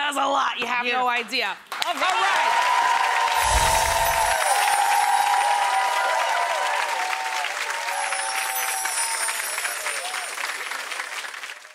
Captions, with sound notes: Yeah. It does a lot, you have no idea. All right! (audience claps and cheers)